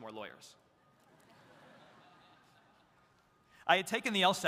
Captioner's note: audience laughs